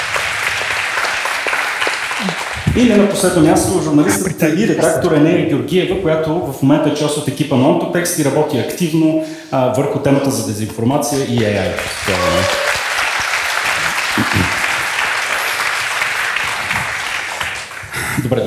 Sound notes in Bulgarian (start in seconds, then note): 11.1 аплодисменти